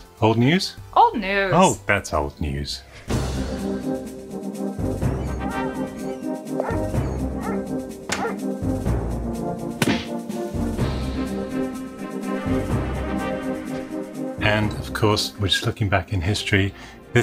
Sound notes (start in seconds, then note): 3.0 upbeat music; 6.5 dog barks; 9.7 smacking sound